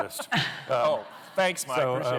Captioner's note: laughter